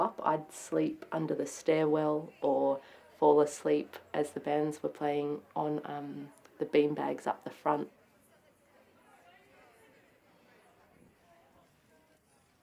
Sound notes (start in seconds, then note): 8.0 people chattering